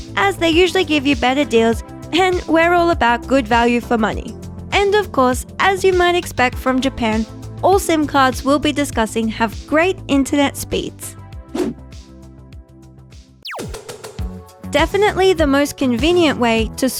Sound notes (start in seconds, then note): 11.5 screen whooshing; 13.7 upbeat music